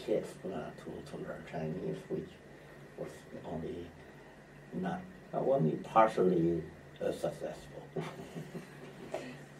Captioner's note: laughs